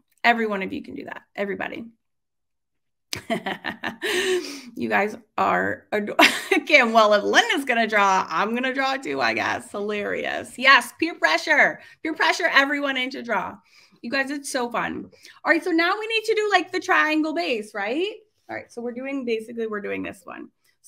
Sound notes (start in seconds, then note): 3.1 laughs